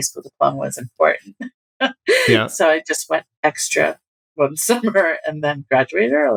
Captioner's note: laughter